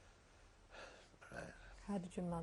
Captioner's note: sighs